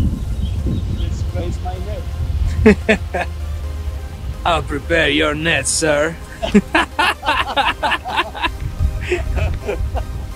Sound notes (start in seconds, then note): 6.2 both laughing